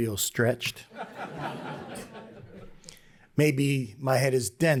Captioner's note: laughter